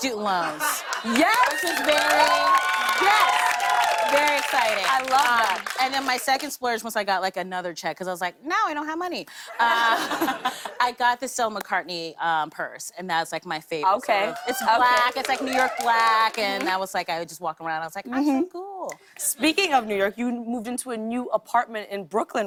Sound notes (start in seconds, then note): 0.8 cheers and applause; 9.5 laughter